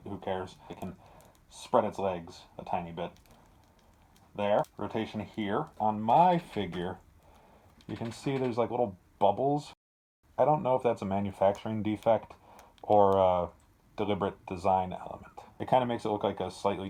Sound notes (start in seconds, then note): none